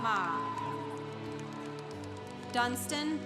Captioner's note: congregation applauding